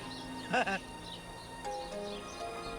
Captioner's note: laughs